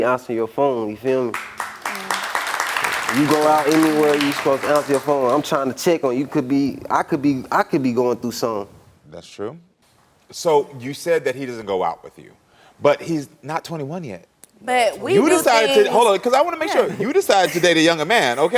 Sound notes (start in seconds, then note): 1.2 audience clapping